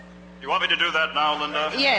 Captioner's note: voiceover